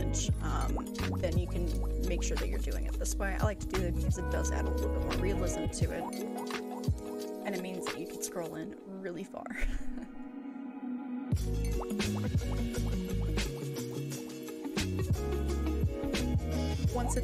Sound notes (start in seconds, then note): 9.5 laughs